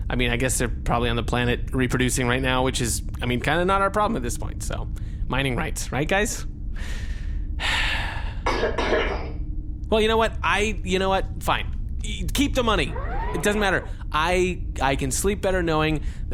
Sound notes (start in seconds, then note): 7.6 Pleck sighs; 8.5 coughs